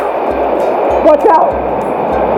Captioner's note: water falls on river